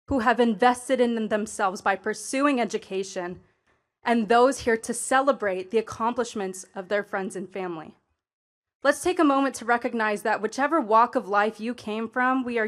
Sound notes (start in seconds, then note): none